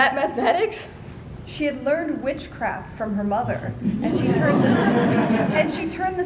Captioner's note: laughter